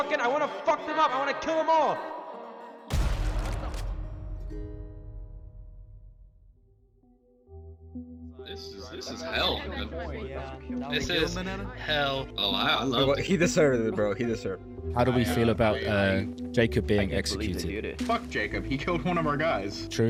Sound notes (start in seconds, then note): 2.9 gunshot; 3.8 music fades out; 8.5 sad music begins to play